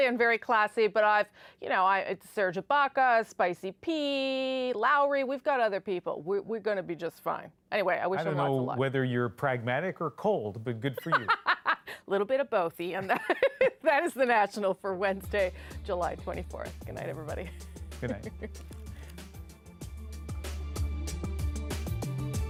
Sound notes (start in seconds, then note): 17.5 laughter